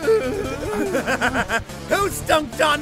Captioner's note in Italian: risata malvagia